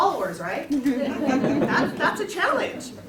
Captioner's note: laughter